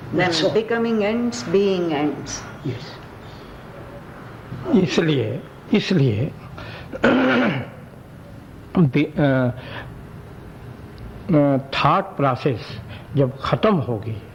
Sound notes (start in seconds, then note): 5.1 discussion In Hindi